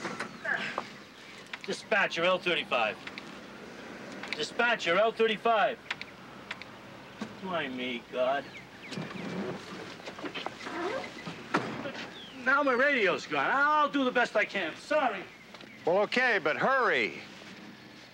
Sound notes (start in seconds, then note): 5.6 tire popping